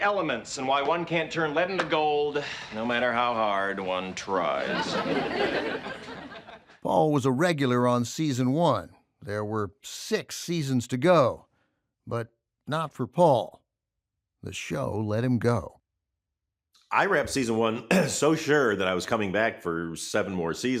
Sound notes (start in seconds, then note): 4.2 laughter